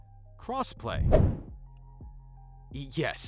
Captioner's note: playful whoosh